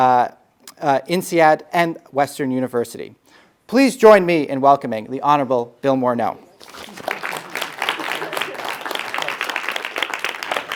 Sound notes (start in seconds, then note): 6.6 audience applauding